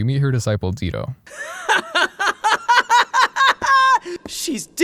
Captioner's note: Dito laughing